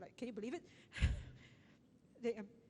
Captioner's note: laughs